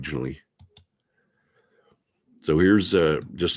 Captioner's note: mouse clicking